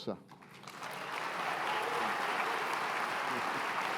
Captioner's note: applause